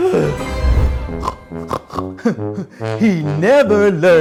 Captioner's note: pig snorts